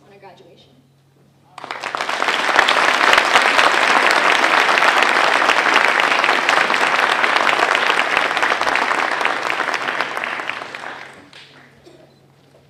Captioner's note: applause